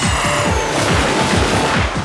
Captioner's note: laser sounds